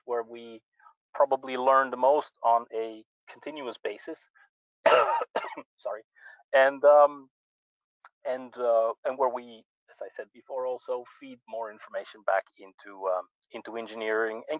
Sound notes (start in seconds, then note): 4.8 coughs